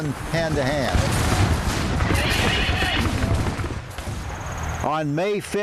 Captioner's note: cannons exploding; horses neighing